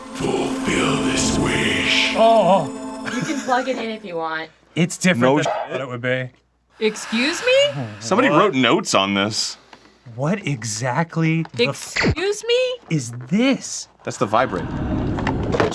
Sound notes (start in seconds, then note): 0.2 disembodied deep male voice voice; 6.8 spooky, ethereal breath in the background; 14.1 distant thunderous runbling